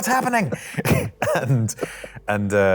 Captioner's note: laughs